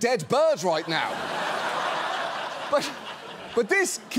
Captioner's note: laughter